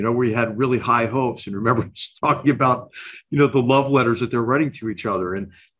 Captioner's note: laugh